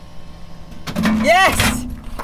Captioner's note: candy bar clanking